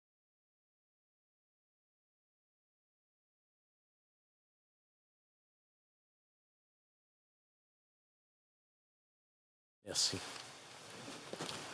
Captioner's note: moment of silence